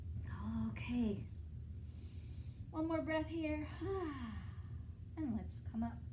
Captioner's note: inhale; exhale